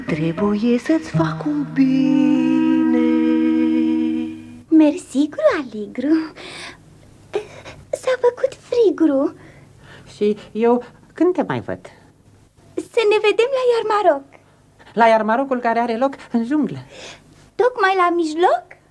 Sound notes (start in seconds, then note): none